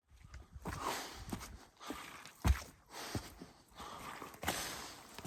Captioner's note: repeatedly exhaling